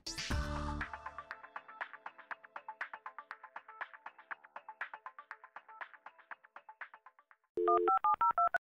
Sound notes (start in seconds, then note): 0.1 techno music; 7.6 dial tones